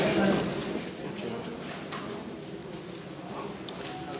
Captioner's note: murmurs